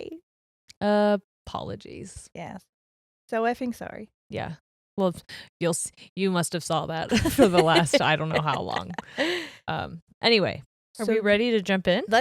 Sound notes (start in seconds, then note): 7.1 laughing